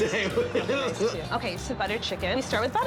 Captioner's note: John laughs